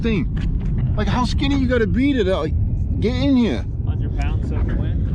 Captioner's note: excited